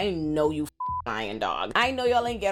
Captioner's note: beep